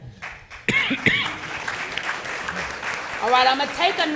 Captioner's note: audience clapping